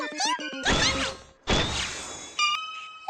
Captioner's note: poof